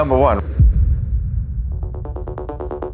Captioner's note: dramatic noise